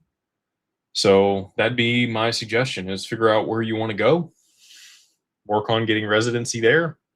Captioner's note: snorts